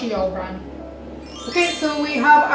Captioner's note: sparkly transition sound-effect